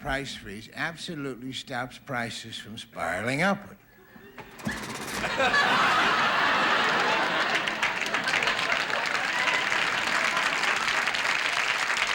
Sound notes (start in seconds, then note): 4.1 audience laughing; 9.3 audience applauding